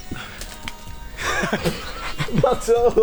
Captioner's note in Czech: Smích